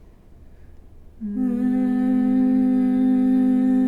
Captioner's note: humming